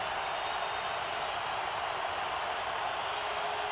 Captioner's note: crowd cheering